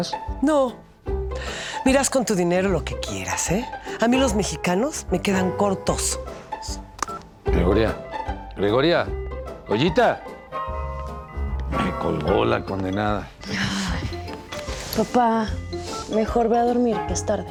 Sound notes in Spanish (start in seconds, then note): 10.4 tono ocupado